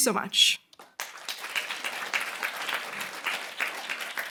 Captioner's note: applause